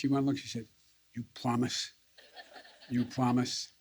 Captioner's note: laughter